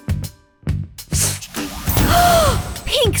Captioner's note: potion spraying